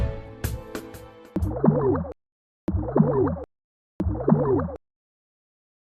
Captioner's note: compressions